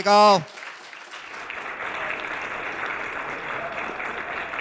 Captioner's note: audience applauding